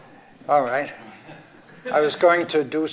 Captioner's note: laughter